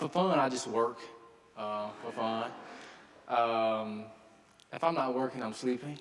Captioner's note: audience laughing